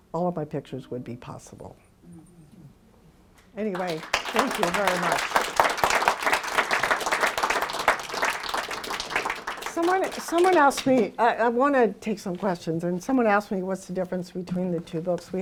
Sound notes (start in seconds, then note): 5.6 applause